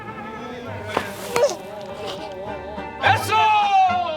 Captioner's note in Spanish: Sollozos